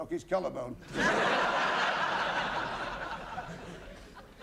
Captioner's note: laughter